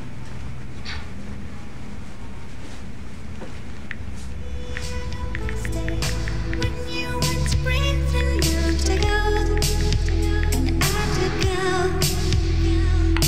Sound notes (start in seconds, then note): 4.5 uplifting electronic music; 5.1 typing